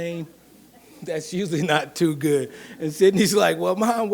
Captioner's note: laughs